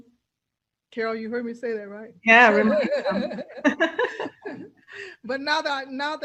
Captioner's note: laughs